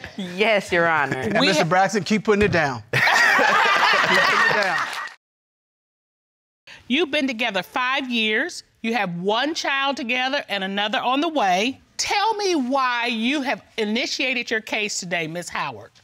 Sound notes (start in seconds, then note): 2.9 all laughing